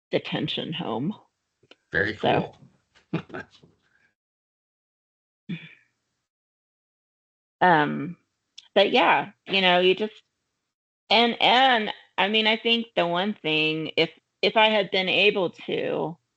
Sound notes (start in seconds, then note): 3.1 laughing